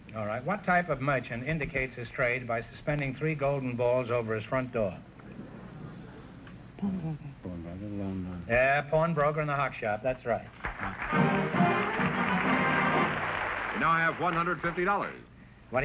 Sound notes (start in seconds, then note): 6.8 whispering; 10.6 triumphant music & applause